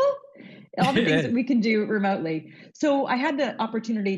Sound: chuckles

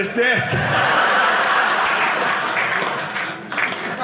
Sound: audience laughing

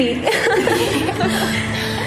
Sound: girls laughing; slow guitar music

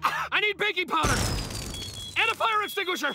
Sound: beeping

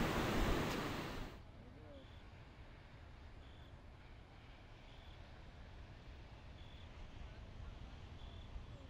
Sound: loud hum of ocean waves; crickets chirping Quiet hum of distant waves

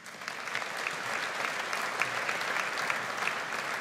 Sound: audience applauds

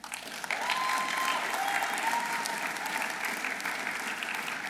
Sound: audience applauding

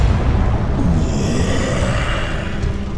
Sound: exhales Oxygen

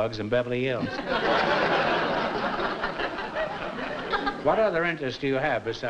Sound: laughter

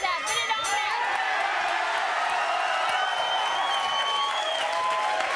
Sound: beep; audience cheering

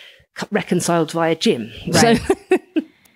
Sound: laughs

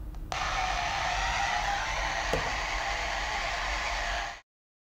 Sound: machine whirring

